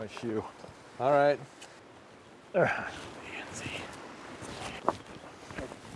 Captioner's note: whisper